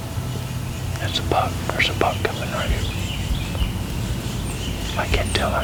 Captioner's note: whispering